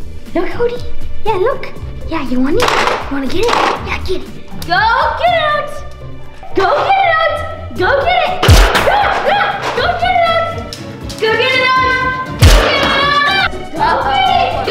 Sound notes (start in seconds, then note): 8.9 yelling; 12.6 shouting